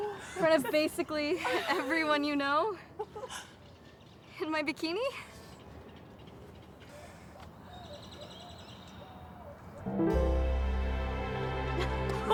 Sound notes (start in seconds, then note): 5.5 birds chirp; 9.8 romantic music